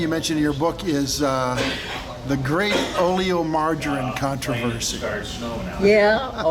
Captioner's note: laughs